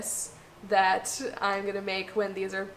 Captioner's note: none